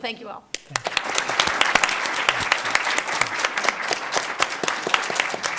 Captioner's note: applause